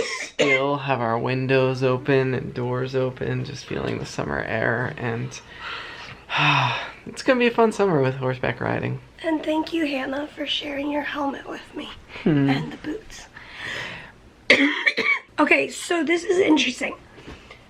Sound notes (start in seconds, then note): 6.2 sighs; 14.4 coughing